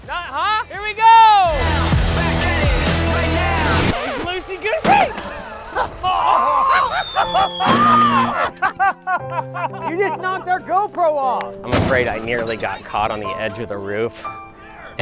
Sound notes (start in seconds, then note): 1.6 rapping; 3.3 record scratch and music cuts out; 5.0 laughter and exclamations